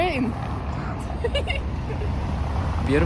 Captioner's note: giggles in Ukrainian